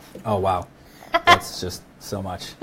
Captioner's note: laughs